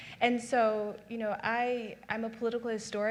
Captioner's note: none